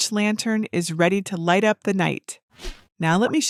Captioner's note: air whooshes